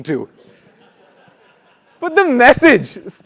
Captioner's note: laugh